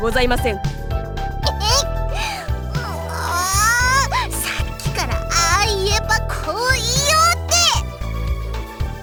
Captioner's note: extremely frustrated groan